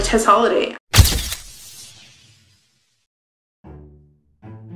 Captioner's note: camera flash clicking; playful music